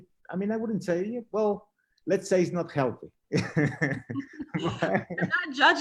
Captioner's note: laughs